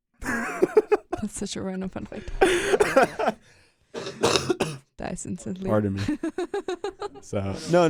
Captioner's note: laughs